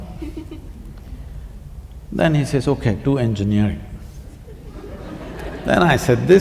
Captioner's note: laughter